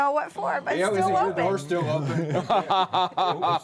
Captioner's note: laughter